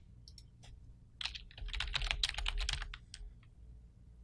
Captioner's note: typing